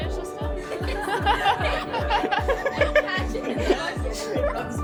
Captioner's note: laughing